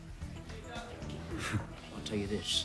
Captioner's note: John scoffs